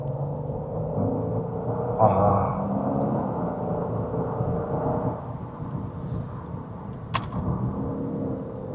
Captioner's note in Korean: 한 번 더 배기음 감상